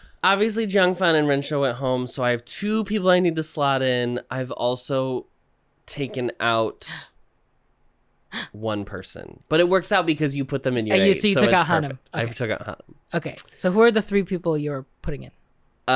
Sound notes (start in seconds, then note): 8.3 gasp